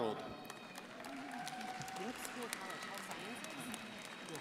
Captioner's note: crowd applauding